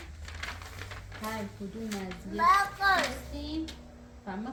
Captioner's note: reciting a poem